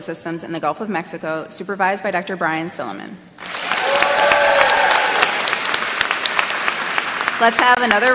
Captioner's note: applause